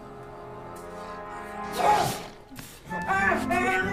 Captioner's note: sneezes